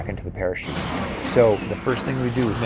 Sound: music- big pounding drums; engines blast

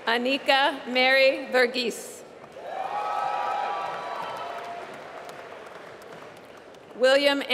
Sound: applause

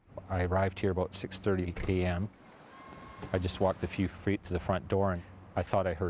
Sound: voiceover

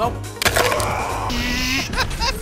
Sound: cry of Fury

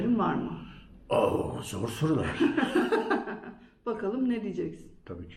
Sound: laughter

